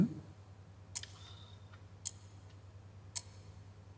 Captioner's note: quietly sighs; clock ticking